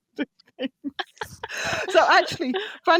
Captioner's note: laughing